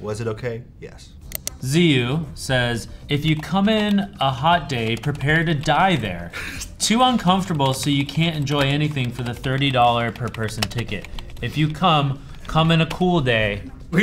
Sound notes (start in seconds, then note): 6.3 Anthony chuckles